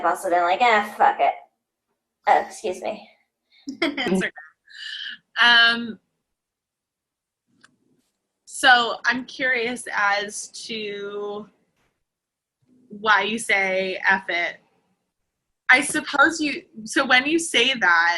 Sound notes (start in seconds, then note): 3.7 laughs